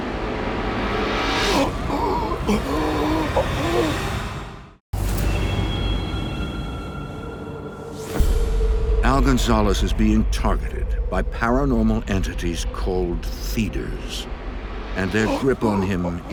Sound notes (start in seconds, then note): 1.4 choking and gasping; 4.7 ominous music